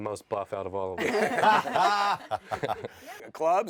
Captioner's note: laughter